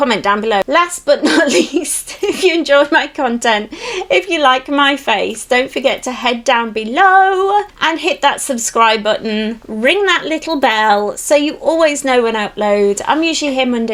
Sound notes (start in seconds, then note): 1.2 giggles